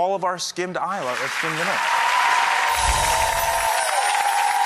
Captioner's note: audience applauds